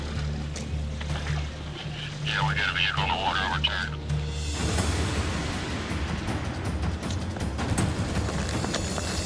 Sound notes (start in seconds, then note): 1.9 man on radio; 4.2 music intensifies